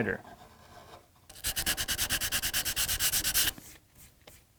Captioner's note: quick scuffing